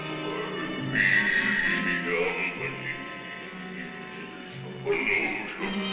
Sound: speaking in a foreign language

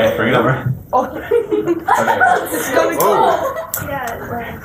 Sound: laughter

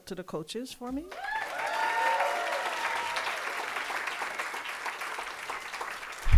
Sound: audience applauding and cheering

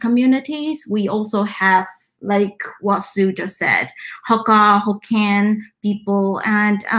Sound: speaks mandarin

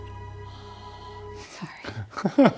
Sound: breathing

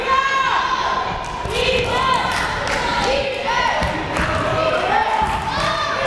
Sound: crowd chanting defense

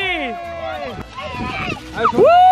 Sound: excited chatter

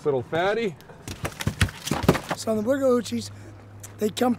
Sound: fish thrashing

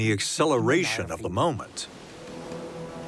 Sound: waves crashing

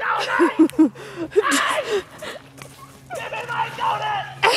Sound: laughing

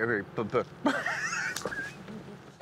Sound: laughing

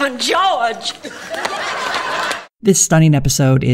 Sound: audience laughter

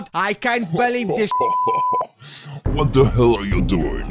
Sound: laughter

